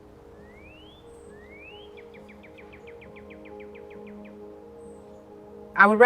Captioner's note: birds chirping; soft music